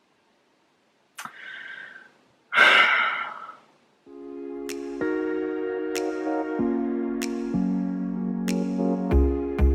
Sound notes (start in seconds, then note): 2.5 sigh